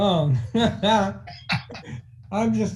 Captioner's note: laughing